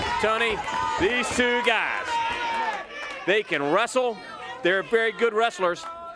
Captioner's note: crowd cheering